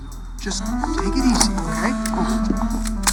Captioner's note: cocking gun